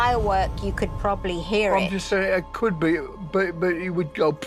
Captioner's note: mimics explosion